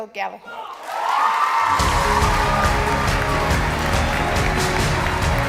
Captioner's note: cheering and applause